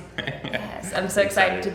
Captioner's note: laughing